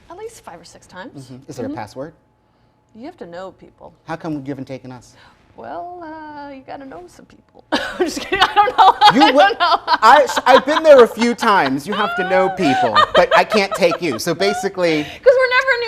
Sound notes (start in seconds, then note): 9.1 laughing